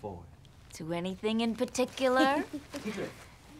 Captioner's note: chuckling